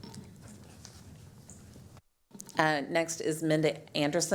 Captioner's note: speaking in spanish